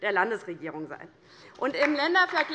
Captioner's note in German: Beifall DIE LINKE